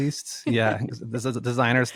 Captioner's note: laughs